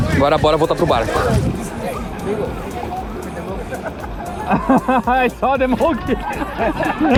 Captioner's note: laughter